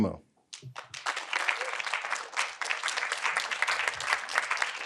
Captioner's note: audience applauding